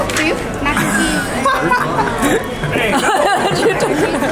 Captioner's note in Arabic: ضحكات جماعية